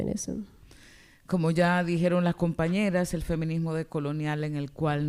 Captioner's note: speaking spanish